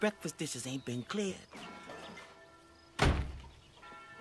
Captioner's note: objects Clatter; door Closes